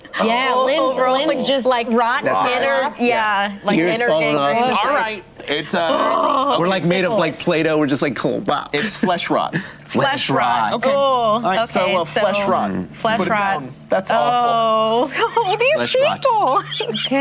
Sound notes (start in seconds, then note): 5.7 disgusted howl; 11.4 disgusted moan; 16.3 laughing